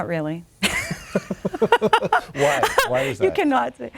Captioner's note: both laughing